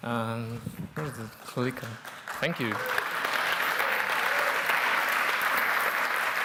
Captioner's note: clapping